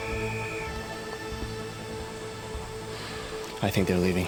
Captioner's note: whistle trilling